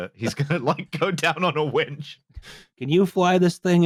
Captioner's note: laughing